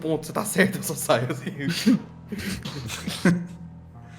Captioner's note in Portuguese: risos